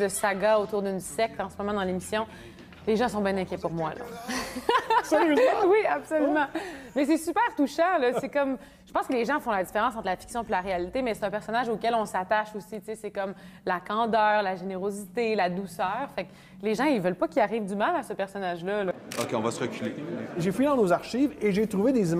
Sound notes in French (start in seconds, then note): 15.0 rires